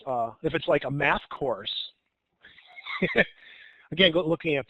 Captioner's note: chuckles